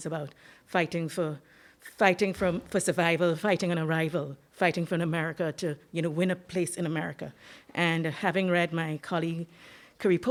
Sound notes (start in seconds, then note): none